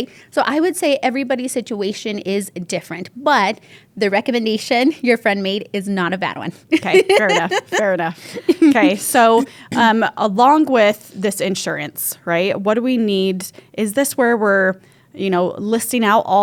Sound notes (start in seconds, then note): 6.8 laughs